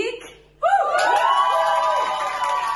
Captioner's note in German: Jubel